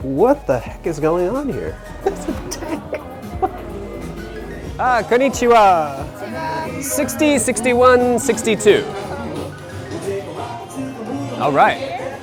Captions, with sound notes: What the heck is going on here? (laughter) It's a tack. Ah, (speaks foreign language) 60, 61, 62, all right.